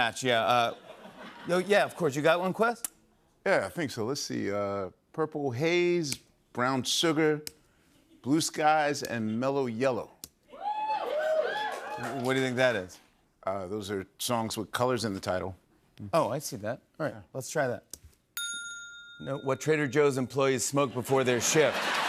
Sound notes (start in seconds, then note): 10.6 cheers and applause; 21.1 laughter and applause